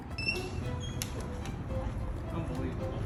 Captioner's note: door creaks